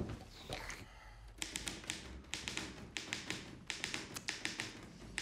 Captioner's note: typewriter clacks